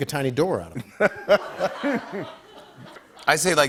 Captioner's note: laughter